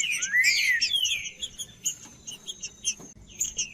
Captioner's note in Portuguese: trinca ferro cantando